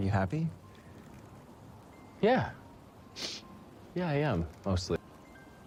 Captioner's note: sniffles